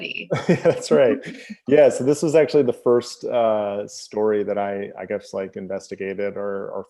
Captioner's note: laughs